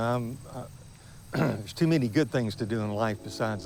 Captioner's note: clears throat